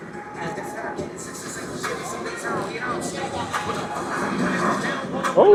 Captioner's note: crowd chattering